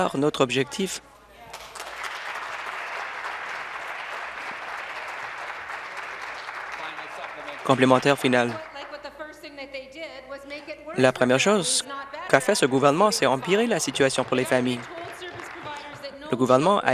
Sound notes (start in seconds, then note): 3.5 voice trailing; 4.4 applause